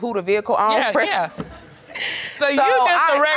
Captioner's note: laughs